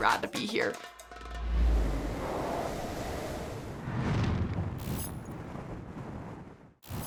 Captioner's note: wind blowing